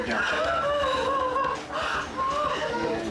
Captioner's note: sobbing continues